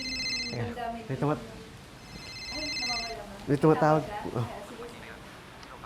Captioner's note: phone ringing; phone continuously ringing